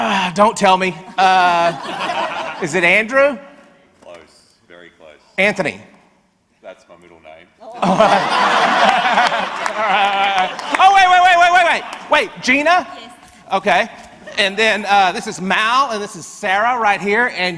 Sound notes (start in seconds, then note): 1.2 audience laughs; 7.7 and audience laughs